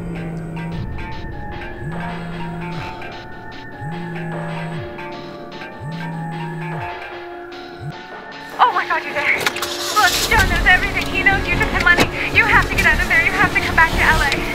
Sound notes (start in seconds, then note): 0.2 phone chiming and vibrating; 9.4 engine starts